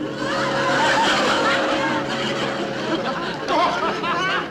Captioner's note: men laughing